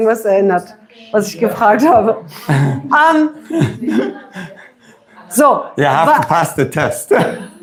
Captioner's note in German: gelächter; gelächter